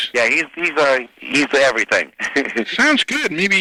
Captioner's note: laughing